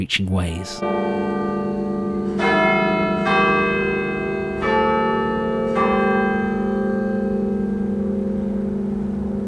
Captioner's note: Bells of Merton College Chapel